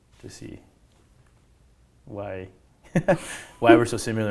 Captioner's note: laughs